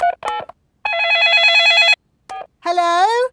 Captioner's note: dialing; cell phone ringing